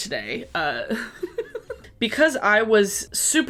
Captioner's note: giggling